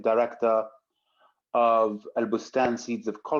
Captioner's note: none